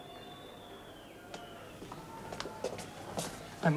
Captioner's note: cheering, whistling